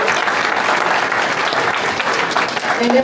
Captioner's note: applause